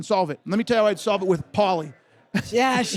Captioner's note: laughs